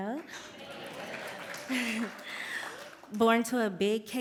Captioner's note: cheers and applause